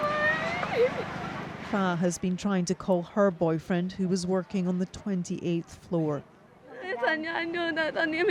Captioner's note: crying